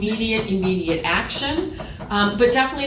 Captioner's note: knocking